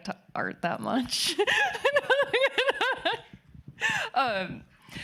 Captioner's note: laughing